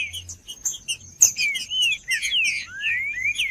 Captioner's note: trinca ferro cantando